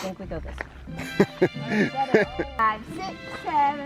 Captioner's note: chuckles